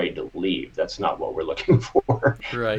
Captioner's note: chuckles